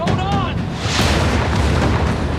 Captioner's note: explosions